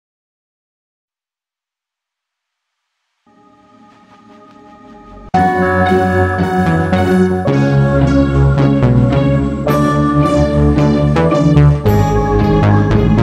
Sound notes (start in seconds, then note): 0.0 sound of night